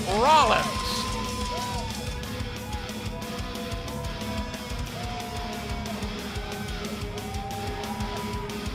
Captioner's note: crowd chatter